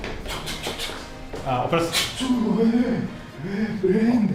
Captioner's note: disgust